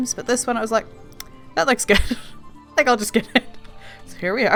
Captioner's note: laughing